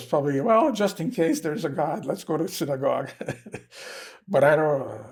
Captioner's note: laughing